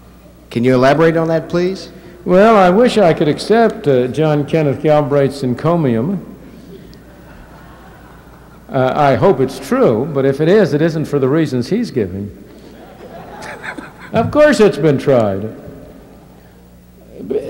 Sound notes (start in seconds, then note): 12.5 laughter